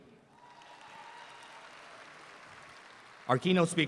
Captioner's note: audience applauds